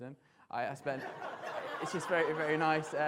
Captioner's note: audience laughter